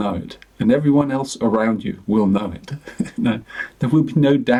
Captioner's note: chuckles